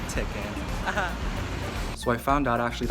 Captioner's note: laugh